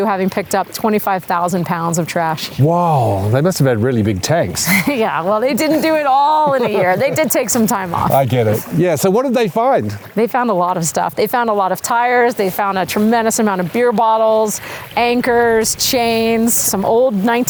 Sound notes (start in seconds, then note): 9.1 both laugh